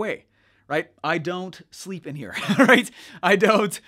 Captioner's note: laughs